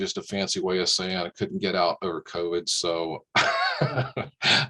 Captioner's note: laughs